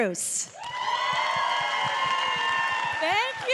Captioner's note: cheers and applause